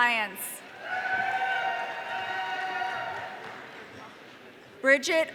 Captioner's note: audience cheering